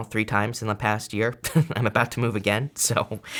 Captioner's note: laughs